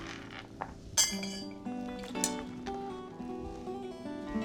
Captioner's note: bowl clinking